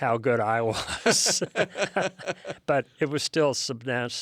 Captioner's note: both laughing